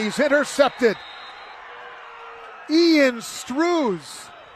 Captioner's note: applause